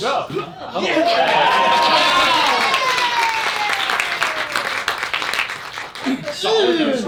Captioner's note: applause